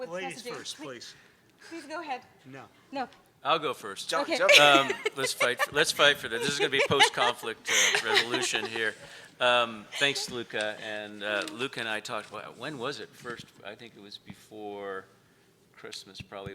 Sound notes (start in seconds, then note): 4.4 laughing